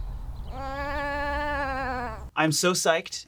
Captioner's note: sheep baas